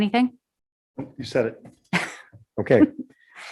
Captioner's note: chuckles